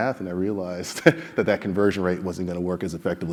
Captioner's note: laugh